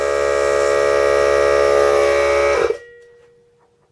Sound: compressor turns off

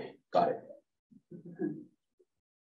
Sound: chuckles

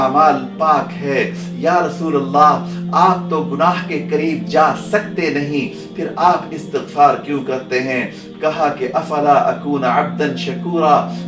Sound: Arabic

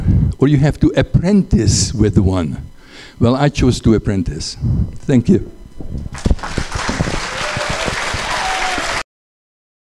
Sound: applause

